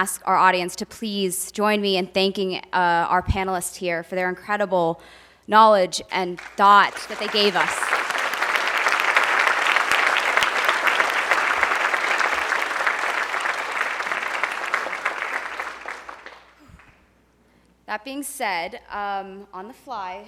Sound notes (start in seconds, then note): 7.4 audience applauding